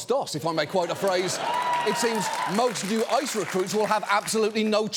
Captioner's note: audience laughs, cheers